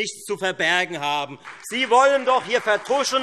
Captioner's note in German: Beifall Freie Demokraten, SPD und AfD